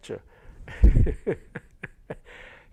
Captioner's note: laughter